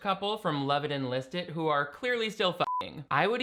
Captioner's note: beeping